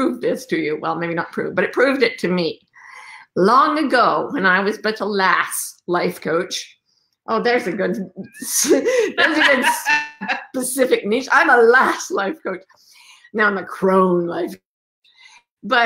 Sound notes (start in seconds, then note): 7.7 laughs